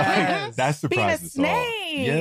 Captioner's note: laughter